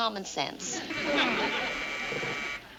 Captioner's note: buzzer rings